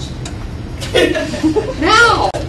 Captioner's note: laughter